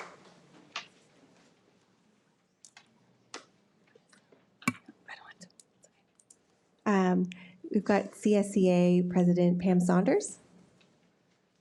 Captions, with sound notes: (whispering) - We've got CSEA president, Pam Saunders.